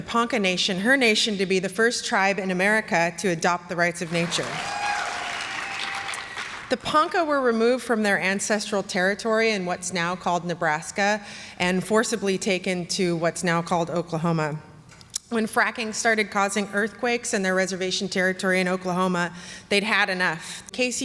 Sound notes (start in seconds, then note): 4.0 applause